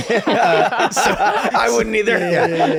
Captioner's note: laughter